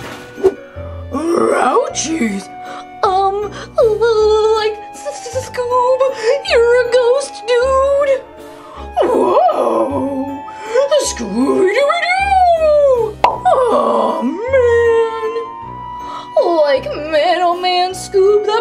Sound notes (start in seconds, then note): 0.0 crashing noise; 4.7 stutters; 13.2 popping noise